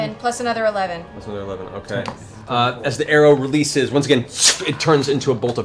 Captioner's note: arrow flying